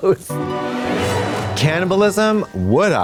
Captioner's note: ghostly chime